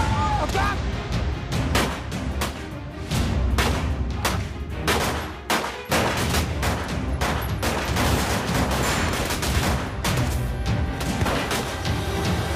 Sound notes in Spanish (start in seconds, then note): 2.8 Disparos